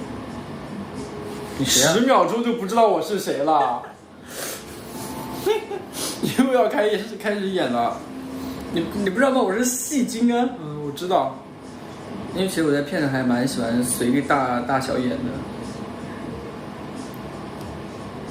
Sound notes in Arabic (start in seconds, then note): 5.3 يضحك